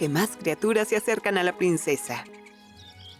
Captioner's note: trino de pájaro